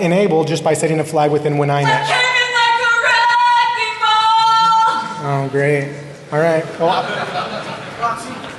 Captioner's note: laughter